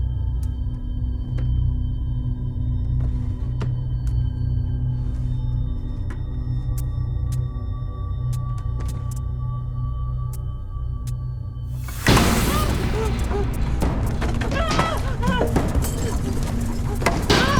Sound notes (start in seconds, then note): 11.9 banging; 14.4 startled shouting